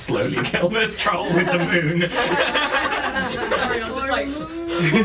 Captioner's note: laughter